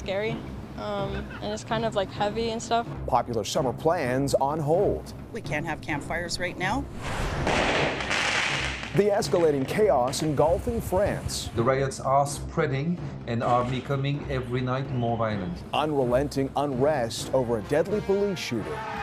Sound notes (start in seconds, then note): 10.0 explosion